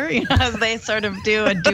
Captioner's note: laugh